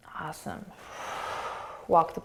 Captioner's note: exhaling